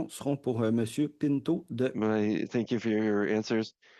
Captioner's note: speaking in French